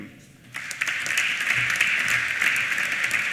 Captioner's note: applause